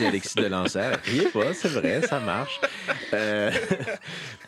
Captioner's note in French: rires